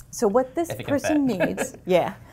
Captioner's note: laugh